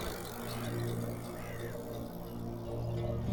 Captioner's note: engine revs; gentle guitar music